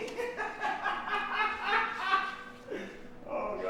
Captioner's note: laughing